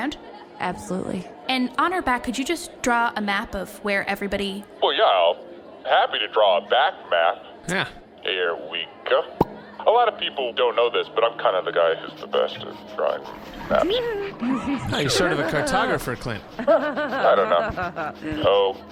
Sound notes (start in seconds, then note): 7.7 Pleck makes a sound halfway between “huh” and “yeah”; 11.9 sound of marker scribbling, giggling